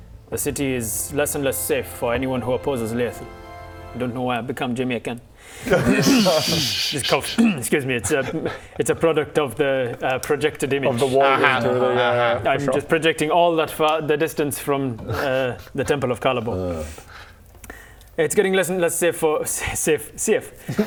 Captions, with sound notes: the city is less and less safe for anyone who opposes Laethil don't know why I've become Jamaican *laughs* Just *cough* 'scuse me it's a it's a product of the projected image - of the warging through the - uh huh uh huh I'm just projecting all that far the distance from the Temple of Kalabor huh It's getting less and less sefe for...safe...seafe